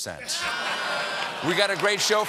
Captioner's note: laughter